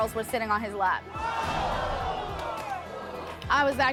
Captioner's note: audience groans